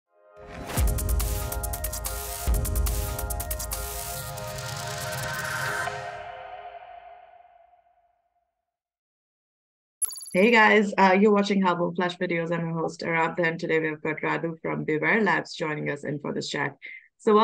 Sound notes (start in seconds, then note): 0.6 upbeat music; 10.0 graphics chiming